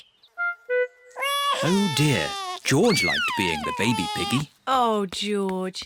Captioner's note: bawls